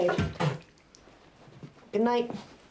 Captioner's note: spitting